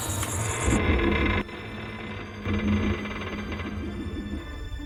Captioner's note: ship creaking